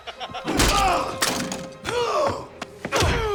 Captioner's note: Dalton laughs; Knox grunts; Knox and Dalton grunting; blows thudding